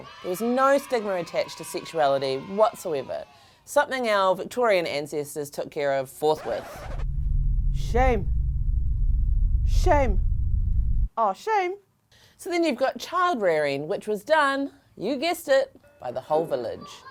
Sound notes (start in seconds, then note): 0.0 cheering; 6.3 record scratching